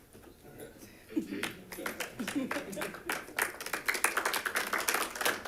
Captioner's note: audience clapping